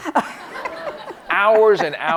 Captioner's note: audience and chuckling